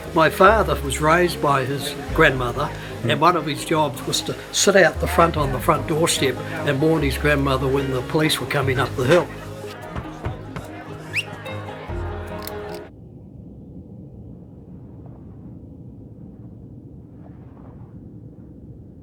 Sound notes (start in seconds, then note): 10.9 boy whistles; 14.4 wind blowing